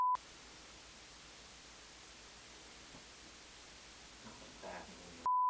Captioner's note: beep